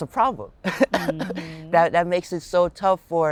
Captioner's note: laughing